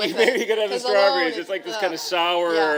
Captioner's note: chuckle